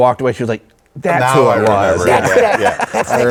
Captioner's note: group laughing